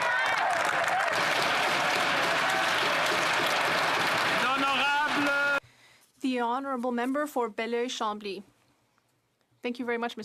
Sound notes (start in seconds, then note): 4.9 applause